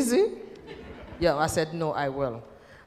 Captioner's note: laughter